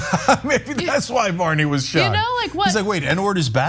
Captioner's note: laugh